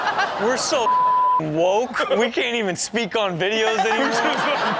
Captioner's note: beep